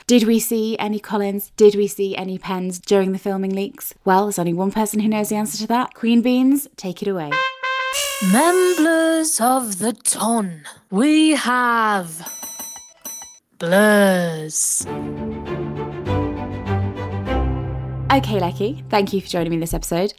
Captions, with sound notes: did we see any Colins? Did we see any Pens during the filming leaks? Well, there's only one person who knows the answer to that. Queen Beans, take it away. (trumpet music) - Memblurs of the ton, we have... (three dings) Ding, ding, ding. (one ding) Ding. Blurs. (upbeat music) - Okay, Lechi, thank you for joining me in this episode.